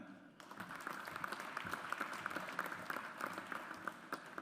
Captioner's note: audience applauds